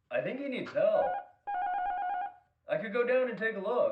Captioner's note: apartment buzzer